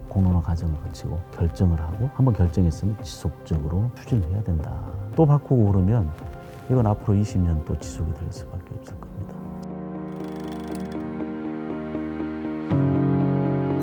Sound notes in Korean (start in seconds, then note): 10.1 다이얼 소리